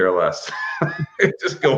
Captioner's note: laughing; laughs